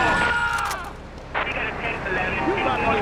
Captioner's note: sirens blaring; screaming